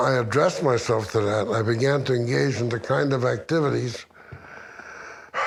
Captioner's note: sighs